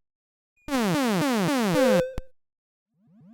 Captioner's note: 8-bit alien sound effect